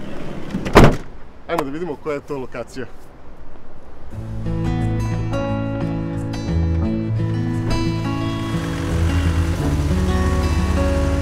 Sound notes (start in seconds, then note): 0.5 car door sound